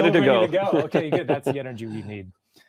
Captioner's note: laughing